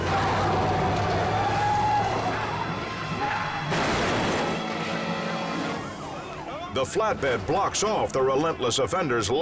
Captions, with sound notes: (car screeching) (car crushes) The flatbed blocks off the relentless offender's